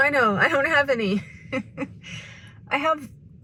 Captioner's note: laughs